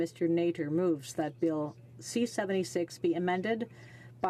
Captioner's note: speaking French